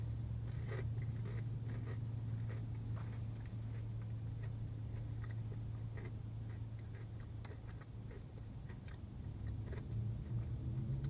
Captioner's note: chewing noises